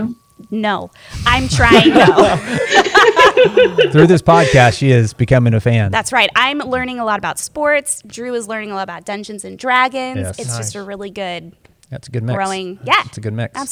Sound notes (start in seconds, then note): 1.5 laughter